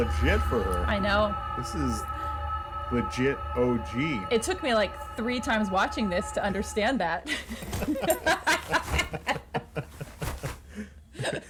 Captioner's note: laughs